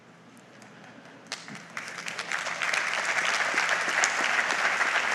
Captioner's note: audience applauds